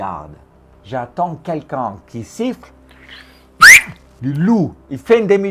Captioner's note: whistles